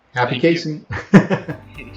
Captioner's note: laughter